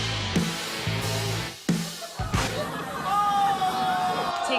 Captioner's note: laughter